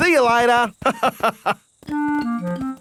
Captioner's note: laughs